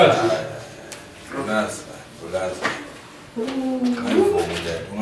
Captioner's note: Sindisiwe exclaiming